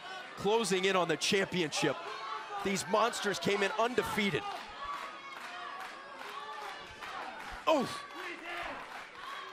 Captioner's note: crowd cheering